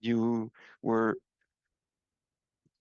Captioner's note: speaking French